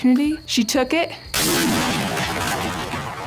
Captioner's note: gunshot